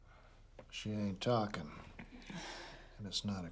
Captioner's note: sighs